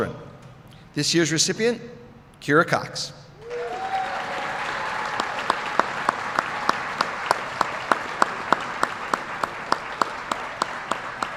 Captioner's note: applause